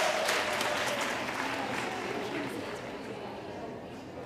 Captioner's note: audience applauding